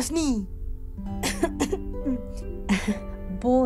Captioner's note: coughs